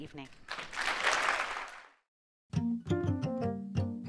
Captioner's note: applause